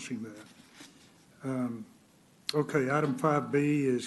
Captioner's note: rustling of papers